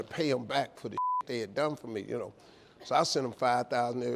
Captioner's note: beep